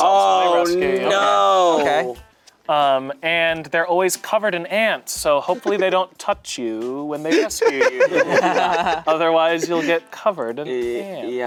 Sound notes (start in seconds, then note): 7.3 laughing